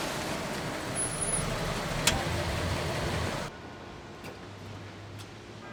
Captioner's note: car engine switching off